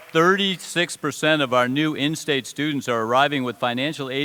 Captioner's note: applause